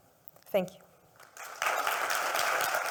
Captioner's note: audience applaud